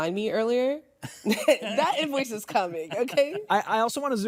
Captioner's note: chuckles